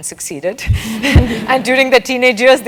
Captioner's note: laugh